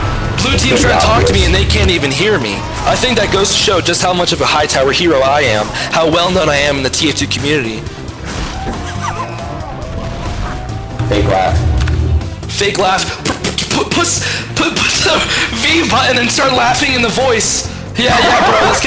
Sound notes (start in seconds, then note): 7.9 laughing; 13.2 stuttering